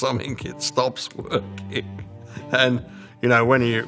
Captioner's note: laughing